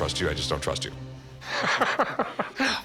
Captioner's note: laughter